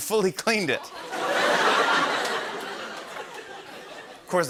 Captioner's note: laughter